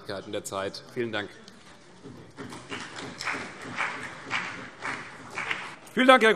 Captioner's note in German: Beifall CDU und BÜNDNIS 90/DIE GRÜNEN